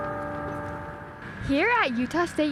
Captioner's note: Old Main chimes